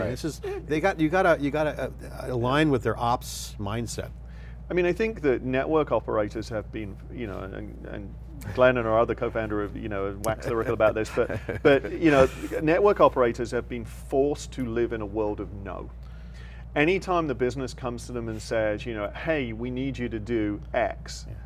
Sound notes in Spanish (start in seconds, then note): 10.3 Risas